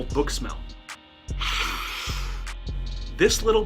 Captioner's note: sniff